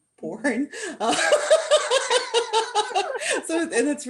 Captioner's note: laughter